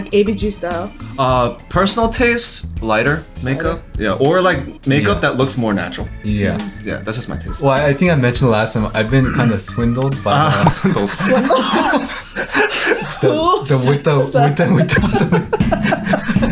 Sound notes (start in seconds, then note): 11.7 laughing